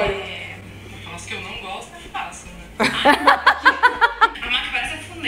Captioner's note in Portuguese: risos